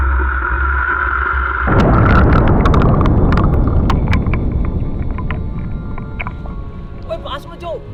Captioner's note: blast